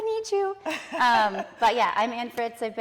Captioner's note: laughing